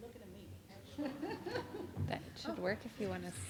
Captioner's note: laughing